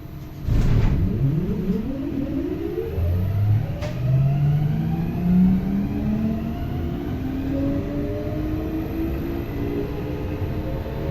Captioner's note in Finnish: legendaarinen taajuusmuuttajien tuottama kiihdytysääni